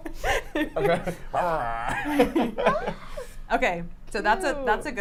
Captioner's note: laughs